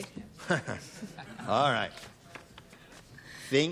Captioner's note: laughs